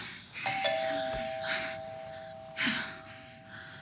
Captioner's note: bell dings